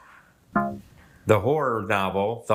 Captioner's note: womp chimes